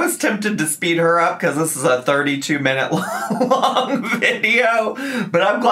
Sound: laughing

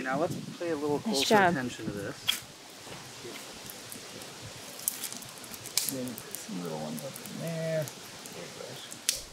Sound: background talking

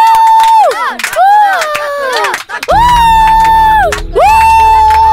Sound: Children clapping and shouting Thakkudu's name

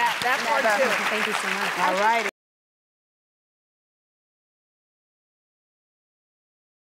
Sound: audience applauding

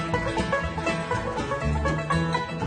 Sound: cheers and applause

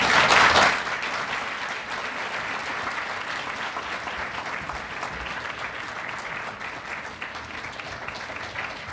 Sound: applause

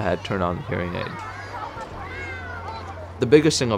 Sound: kids playing at beach

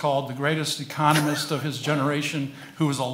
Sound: laughs

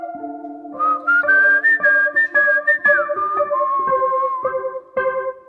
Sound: whistling

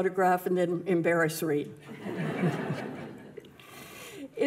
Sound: audience laughs

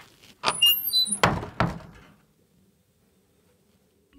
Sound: foot steps; door creaking

